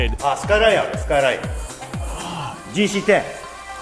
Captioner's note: speaking Japanese